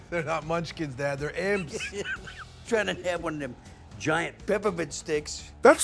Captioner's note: laughs